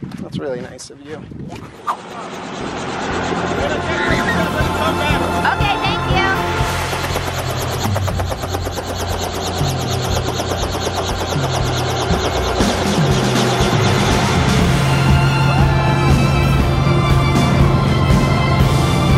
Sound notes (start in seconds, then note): 2.6 helicopter whirring; 7.4 helicopter whirring; 15.1 upbeat, inspirational music